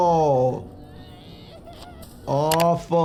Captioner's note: Shifty groans and whimpers